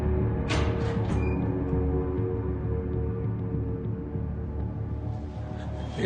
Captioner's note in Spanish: Sonido al abrir la puerta